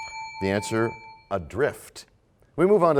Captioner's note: bell rings, time expires